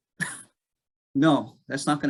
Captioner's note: laughing